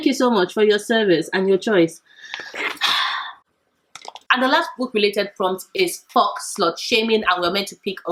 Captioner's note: sigh